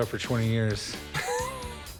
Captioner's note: laughter